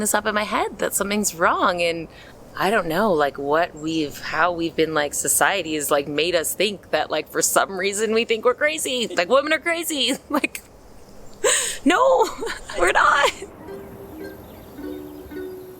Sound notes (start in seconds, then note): 11.4 laugh